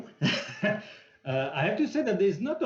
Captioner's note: chuckles